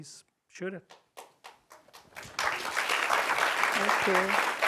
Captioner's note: applause